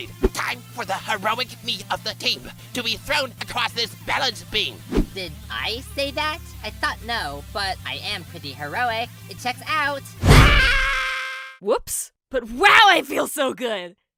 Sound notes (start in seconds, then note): 10.3 Pin screams